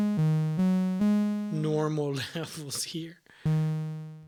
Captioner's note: laught